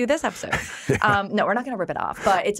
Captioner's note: laughing